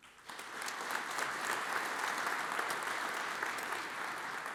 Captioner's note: audience applauds